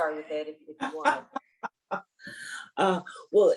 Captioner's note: laughs